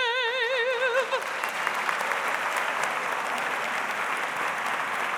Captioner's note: audience applauds